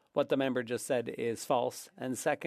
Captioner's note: speaking French